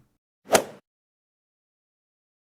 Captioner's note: swoosh